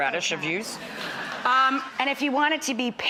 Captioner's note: audience laughs